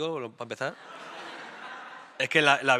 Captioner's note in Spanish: Risas